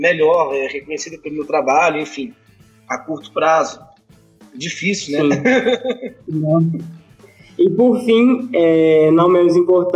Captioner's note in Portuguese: Risos